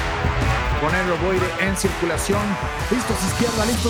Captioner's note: Spanish